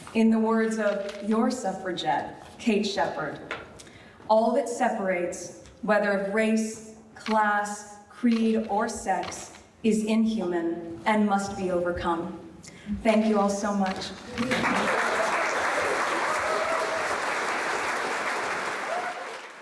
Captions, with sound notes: In the words of your suffragette, Kate Sheppard, all that separates, whether of race, class, creed, or sex, is inhuman and must be overcome. Thank you all so much. (audience applauding)